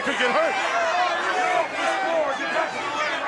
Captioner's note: crowd cheering